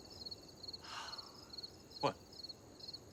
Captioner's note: sighs